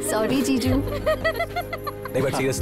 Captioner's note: Laughs